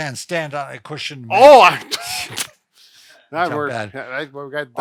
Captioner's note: laughs